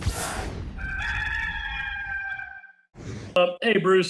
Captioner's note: rooster crows